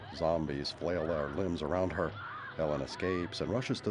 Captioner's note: screaming